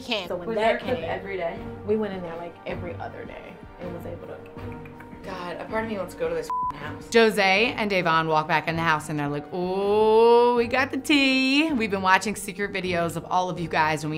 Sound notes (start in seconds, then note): 4.7 clicking; 6.4 beeps